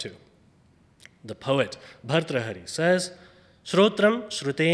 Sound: speaks foreign language

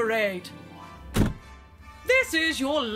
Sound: door closes

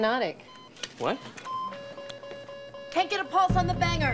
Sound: beeping

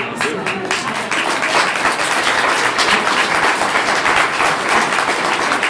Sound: clapping

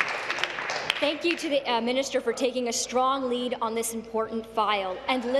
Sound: applause

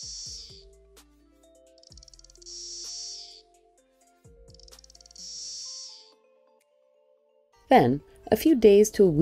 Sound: cicada mating song

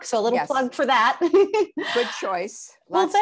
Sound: laughs

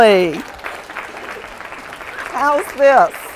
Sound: applause

